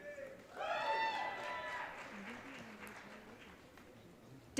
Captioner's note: audience cheering